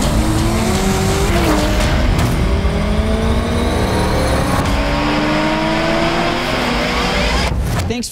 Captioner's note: car engine revving